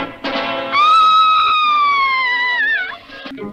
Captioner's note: Sweet Polly Purebred Screams